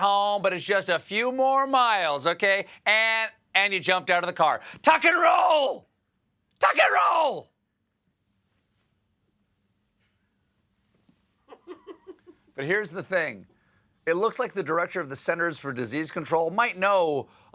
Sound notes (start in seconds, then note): 11.4 laughter